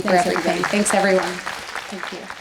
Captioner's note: audience applauds